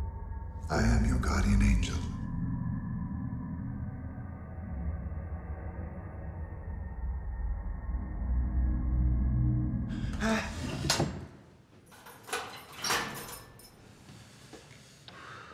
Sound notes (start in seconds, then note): 10.0 Palle gasps; 11.5 lock clicks